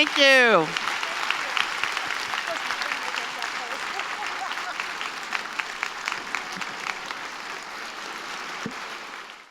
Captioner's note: applause